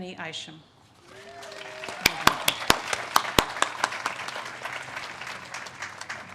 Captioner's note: audience cheers and claps